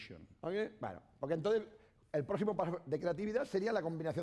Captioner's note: speaking spanish